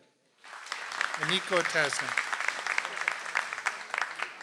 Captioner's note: audience applauds